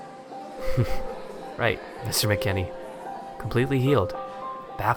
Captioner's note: chuckling a bit